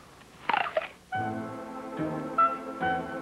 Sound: apple crunches

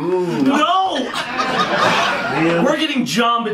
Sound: audience laughing

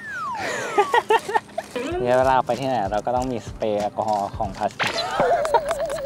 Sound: laugh

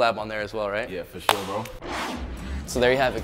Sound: screen whooshes

